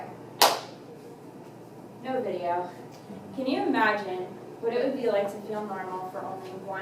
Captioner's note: clap